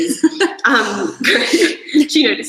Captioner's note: laughs